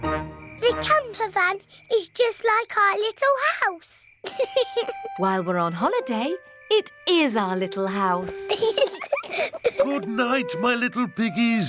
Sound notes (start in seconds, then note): 4.2 george laughs; 8.2 both laugh